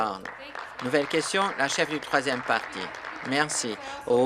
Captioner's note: applause